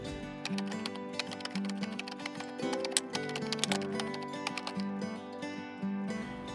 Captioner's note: pleasant music; keyboard keys tapping